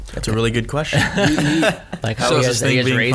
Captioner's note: all laugh